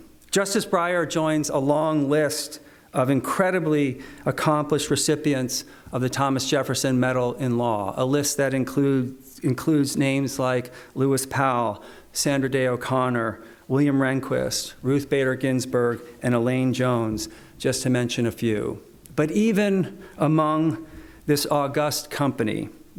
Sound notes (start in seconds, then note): none